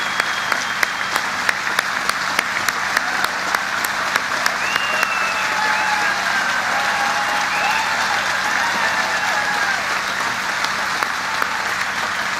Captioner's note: applause